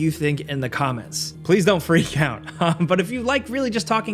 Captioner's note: chuckles